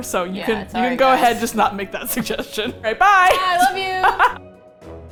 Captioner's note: laughs